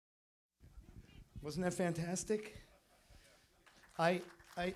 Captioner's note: applause